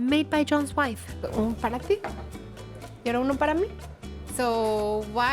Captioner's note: speaking Spanish